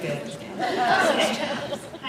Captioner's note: laughs